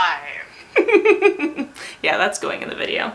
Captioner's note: laughs